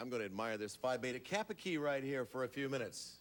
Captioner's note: none